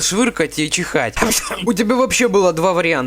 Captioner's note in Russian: чих